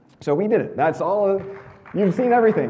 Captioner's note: audience clapping